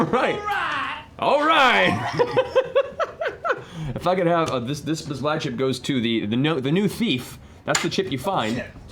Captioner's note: laughs